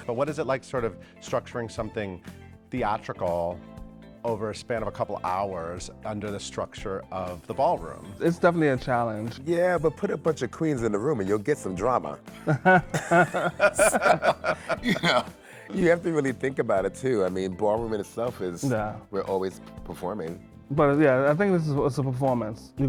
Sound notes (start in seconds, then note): 12.4 all laughing